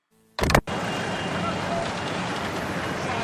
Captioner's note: VHS player restarts; city noises